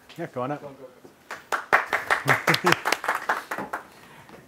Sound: audience applauds

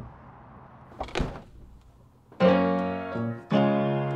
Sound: trunk thumps

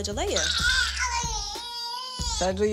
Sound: fussing

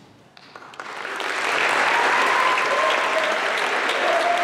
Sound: applause

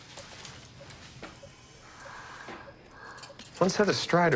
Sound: heavy breathing, tubes hissing

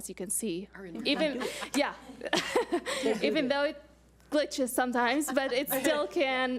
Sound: audience laughs

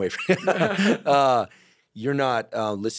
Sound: laughter

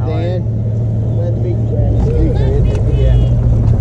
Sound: motor revving

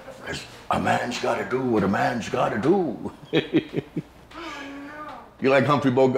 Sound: laughs

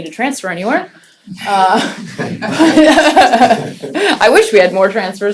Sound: laughter

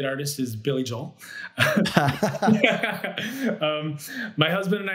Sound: both laugh

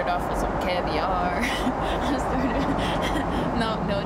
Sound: chuckles

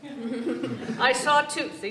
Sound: laughter

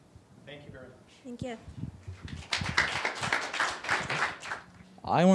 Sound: applause

